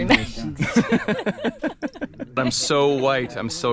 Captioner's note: both laughing